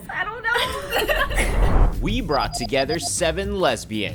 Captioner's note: women laughing